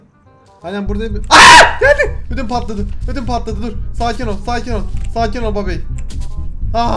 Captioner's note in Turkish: Çığlık Sesi